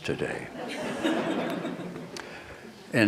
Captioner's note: laughter